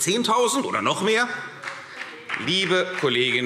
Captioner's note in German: Beifall CDU und BÜNDNIS 90/DIE GRÜNEN